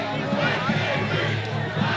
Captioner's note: crowd chants